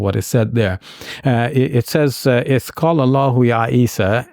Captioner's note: speaking in Arabic